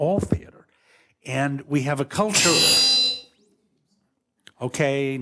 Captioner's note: loud electric ping